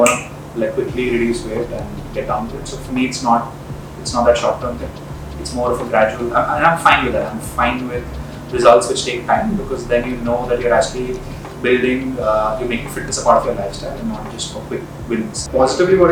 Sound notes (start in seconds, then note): 0.0 finger snaps